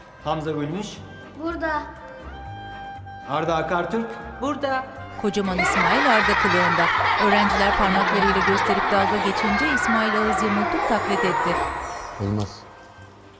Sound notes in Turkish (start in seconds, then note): 5.5 Gülme sesleri